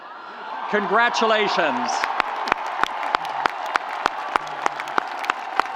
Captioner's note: audience applauds